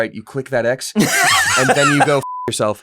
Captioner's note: laughter; beep